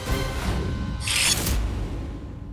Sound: sword clanking

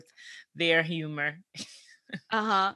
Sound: chuckles

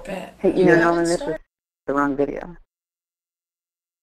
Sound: voiceover

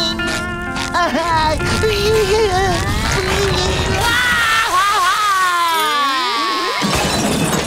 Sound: crying

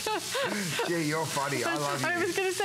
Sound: laughter

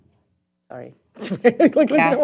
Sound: laughing

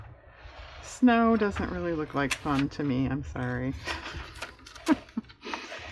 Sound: laughs

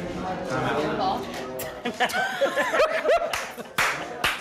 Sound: laughing

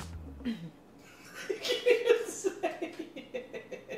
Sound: laughter

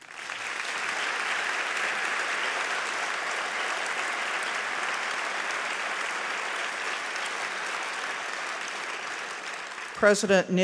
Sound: applause

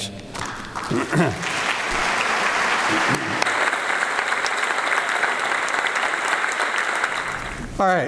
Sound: applause

